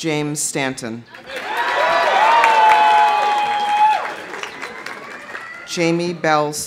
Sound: audience applauding; audience cheering

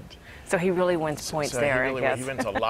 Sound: laughs

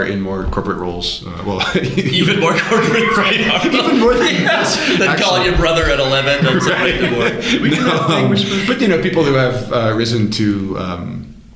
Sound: laughter

